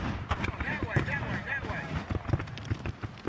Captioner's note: explosions; voiceover